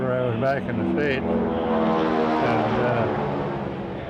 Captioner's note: plane droning overhead